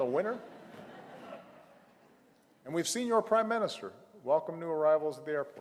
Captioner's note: laughter